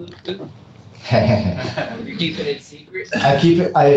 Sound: laughter

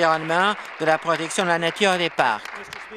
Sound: applause

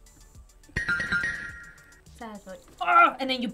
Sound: bells twinkling

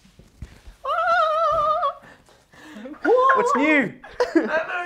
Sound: humming

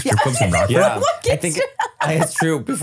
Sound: laughing

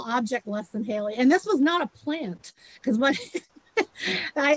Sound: laughs

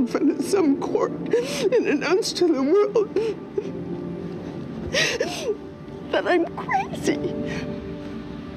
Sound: sobs

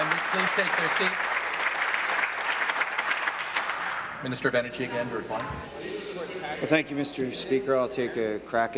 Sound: applause

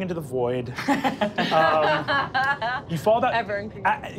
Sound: laughing

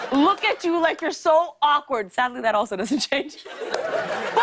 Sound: laughter

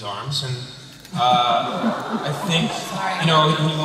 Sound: laughter

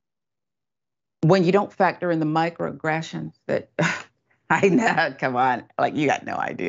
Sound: laugh

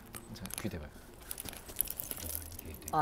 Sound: whisper whisper

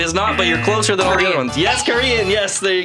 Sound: buzzer buzzes

